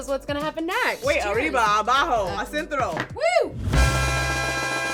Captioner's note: cheers in Spanish; mariachi music